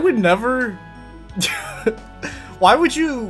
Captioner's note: chuckles